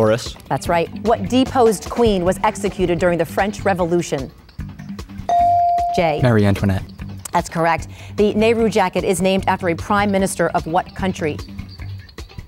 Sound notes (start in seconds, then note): 5.3 bell dinging